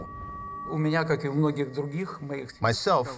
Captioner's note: speaking foreign language